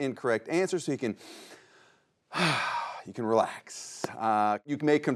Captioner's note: breathes deep